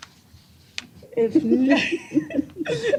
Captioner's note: laughter